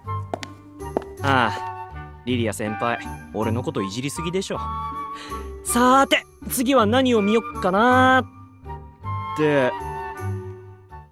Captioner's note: sigh